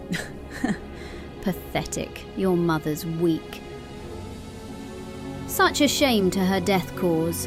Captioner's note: scoffs